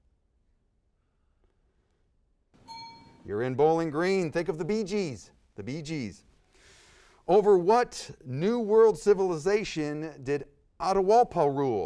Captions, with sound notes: (bell dings) You're in bowling green. Think of the Bee Gees, the Bee Gees. Over what new world civilization did Atahualpa rule?